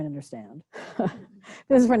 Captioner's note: laughter